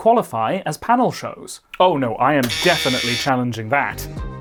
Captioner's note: buzzer